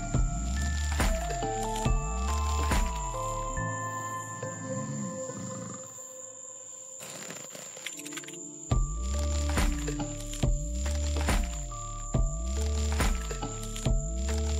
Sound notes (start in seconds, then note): 0.1 mysterious music continues; 4.8 snoring; 10.6 mysterious music continues